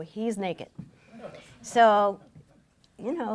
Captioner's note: laughing